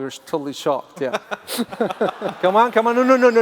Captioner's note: laughs